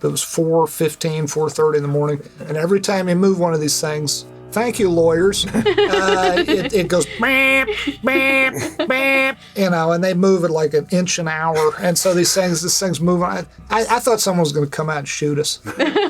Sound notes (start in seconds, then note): 5.5 laughs; 8.2 imitates beeping